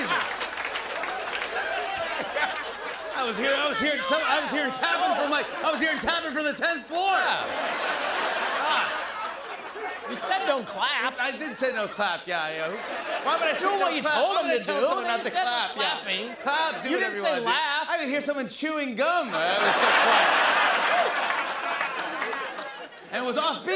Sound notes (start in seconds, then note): 1.6 laughter; 19.4 laughter and applause